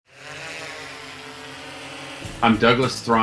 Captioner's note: drone buzzing